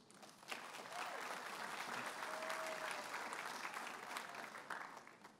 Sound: audience applauding and cheering

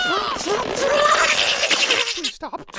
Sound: gargling

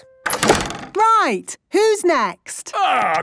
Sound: doors slamming

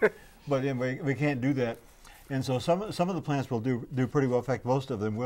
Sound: laughing

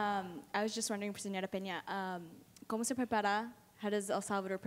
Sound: foreign language

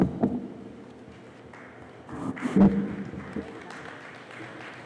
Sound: applause

